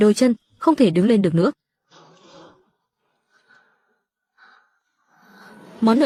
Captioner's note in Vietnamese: khịt mũi